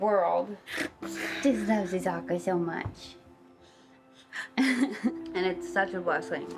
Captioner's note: chuckles